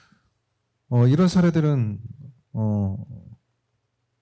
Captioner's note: speaking korean